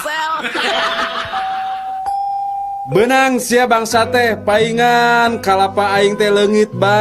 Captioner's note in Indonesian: tertawa